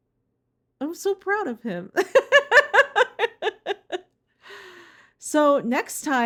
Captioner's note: laughing